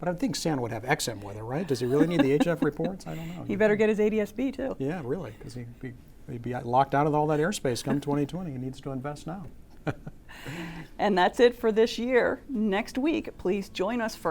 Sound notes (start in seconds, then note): 1.6 laughs; 10.5 laughs